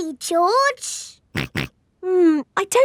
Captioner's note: snorts